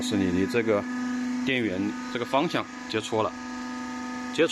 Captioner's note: power off